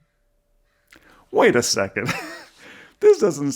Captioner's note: chuckles